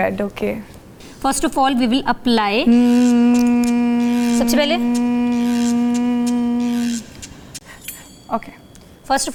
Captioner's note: starts humming